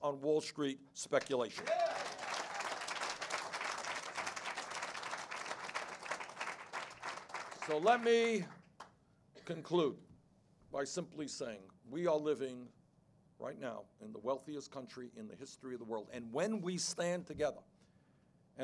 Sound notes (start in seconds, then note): 1.2 applause